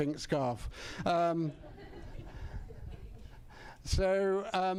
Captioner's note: laughter